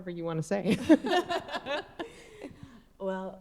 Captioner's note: group laughing